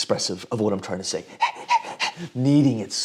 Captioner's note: panting heavily